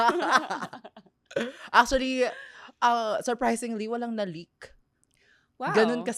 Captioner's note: laughs